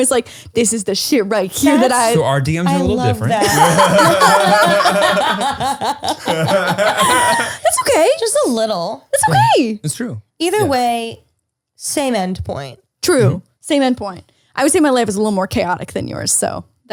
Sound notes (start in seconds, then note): 2.6 laughing